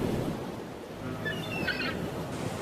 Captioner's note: birds chirping; waves crashing; gulls squawking